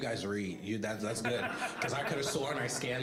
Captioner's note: all laughing